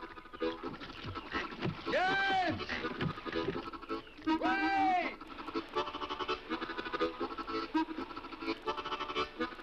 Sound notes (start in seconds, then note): 4.9 brook babbles